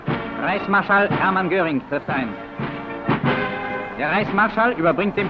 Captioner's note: speaking in German; marching music